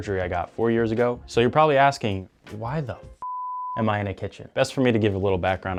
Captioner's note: beep